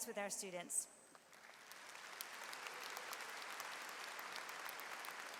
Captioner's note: audience applauds